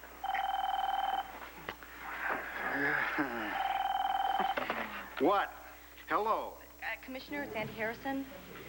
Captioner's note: telephone rings